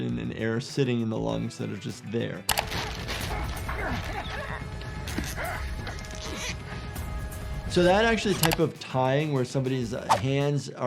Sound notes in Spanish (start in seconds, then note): 2.6 música dramática; 2.8 hombre gimiendo